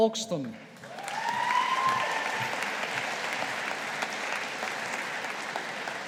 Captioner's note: audience applauding